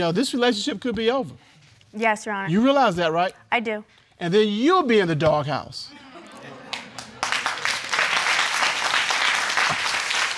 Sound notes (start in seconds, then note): 6.6 audience applauding